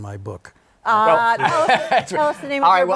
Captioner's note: laughs